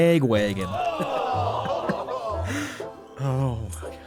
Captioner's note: laughter